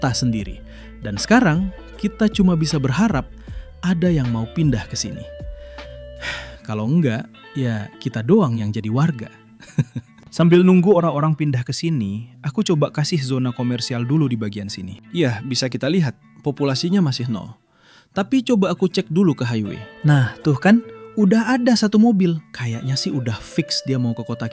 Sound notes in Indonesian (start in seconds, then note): 9.6 tertawa